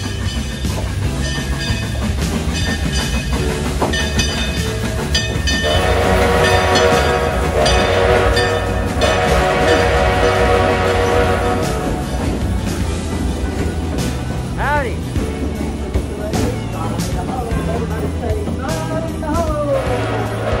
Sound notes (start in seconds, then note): 0.1 bell ringing; 5.6 steam whistle